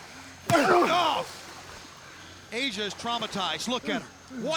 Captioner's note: labored breathing; head thudding